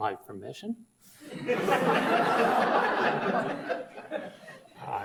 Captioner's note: audience laughs